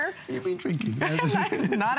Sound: laughter

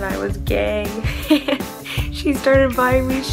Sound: laughs

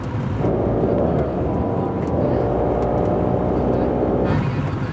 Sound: motorcycles roaring

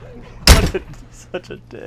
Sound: laughing; door slams

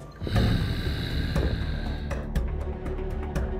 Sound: gasps

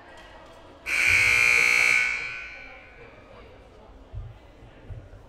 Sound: loud buzzer blaring

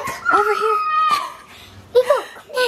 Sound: laughs

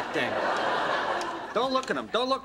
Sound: audience laughter

